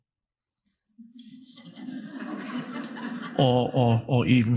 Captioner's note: audience laughing